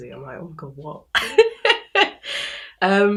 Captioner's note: laughs